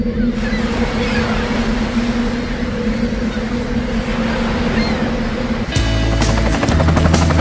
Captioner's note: wind whistling; wind whistling and seagulls squawking; blade slap